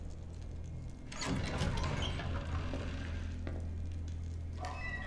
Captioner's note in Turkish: Kapı Açılma Sesi